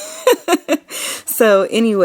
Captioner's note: laughing